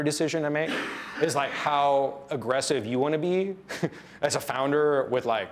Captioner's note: laughs